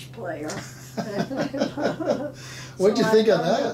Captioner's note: laughing